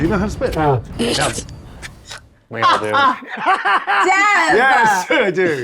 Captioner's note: laughs